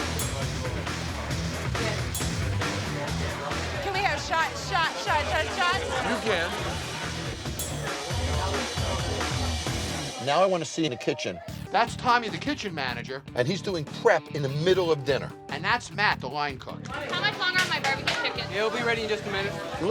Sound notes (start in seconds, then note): 0.2 energetic rock music; 8.1 bar patrons chattering; 8.1 energetic rock music